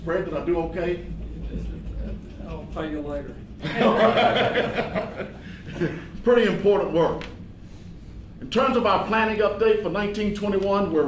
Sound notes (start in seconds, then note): 5.1 laughing